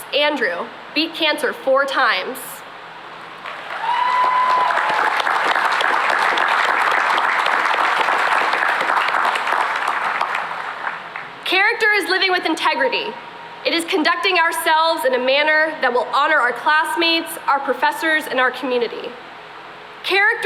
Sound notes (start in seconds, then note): 3.4 cheering and applause